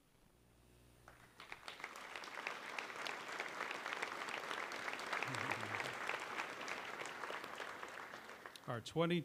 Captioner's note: applause